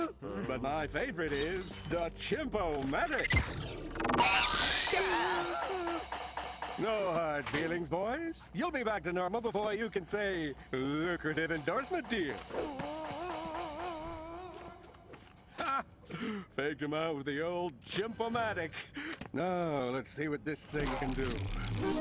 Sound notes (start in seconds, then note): 0.0 loud horn blaring; 3.1 screeching; 3.2 laser fire; 4.6 cymbals crashing; 11.5 groaning; 15.4 laughs